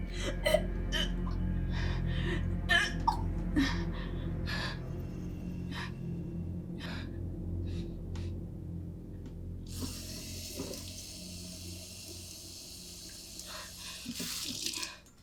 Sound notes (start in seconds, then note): 9.6 water running